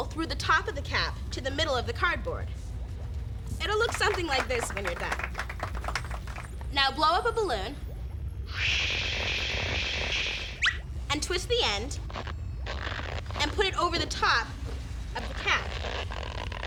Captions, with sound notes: THROUGH THE TOP OF THE CAP TO THE MIDDLE OF THE CARDBOARD. IT WILL LOOK SOMETHING LIKE THIS WHEN YOU'RE DONE. [ APPLAUSE ] NOW BLOW UP A BALLOON... [ BLOWS ] AND TWIST THE END AND PUT IT OVER THE TOP OF THE CAP.